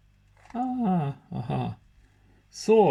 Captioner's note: laughs